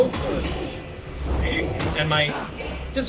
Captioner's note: video game fighting sounds